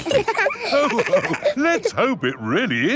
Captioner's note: all laughing